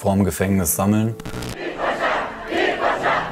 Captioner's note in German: Protestrufe